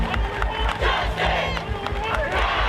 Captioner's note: crowd